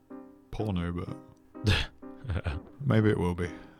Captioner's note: sniggers